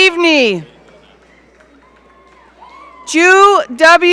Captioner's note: audience cheering